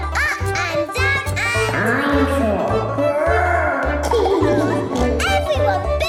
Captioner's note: laughing